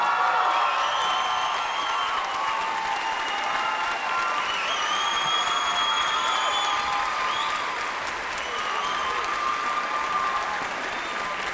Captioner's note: applause